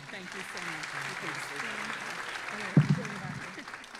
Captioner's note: audience applauding